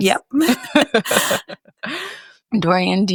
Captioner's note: laughs